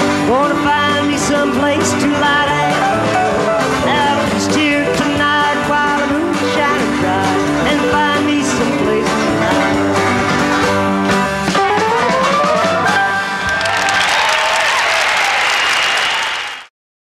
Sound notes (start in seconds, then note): 11.9 banjo playing; 13.9 crowd cheering